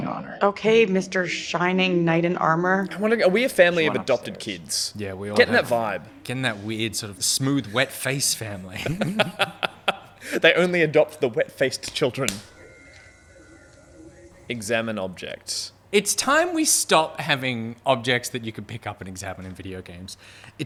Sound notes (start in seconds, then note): 8.5 chuckling